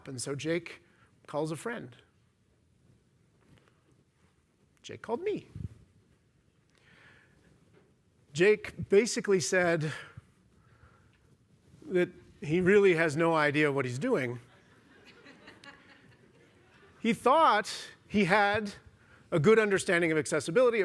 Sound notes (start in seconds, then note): 14.4 laughter